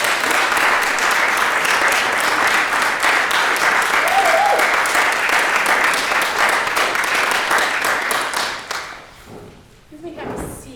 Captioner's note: applause, cheering; applause